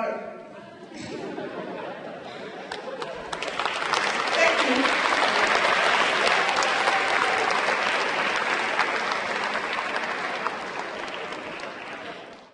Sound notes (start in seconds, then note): 0.5 laughter; 5.1 applause